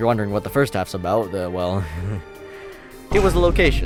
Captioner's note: laughs